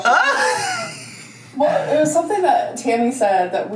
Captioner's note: laughs